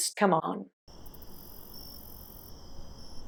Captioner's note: crickets chirping